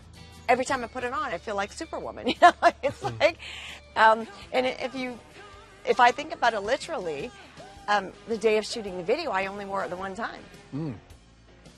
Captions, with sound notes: I'm, like, every time I put it on, I feel like Superwoman, you know? [laughs] It's, like--um, and if you-- if I think about it literally, um, the day of shooting the video, - I only wore it the one time. - Uh-hmm.